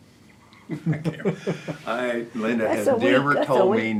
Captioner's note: laughter